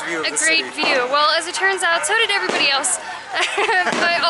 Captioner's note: laughter